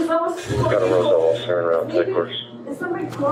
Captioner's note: radio chatter